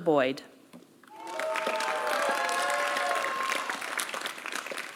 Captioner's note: applause